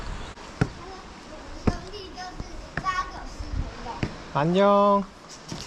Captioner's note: children's voice